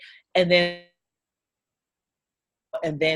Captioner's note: audio drops out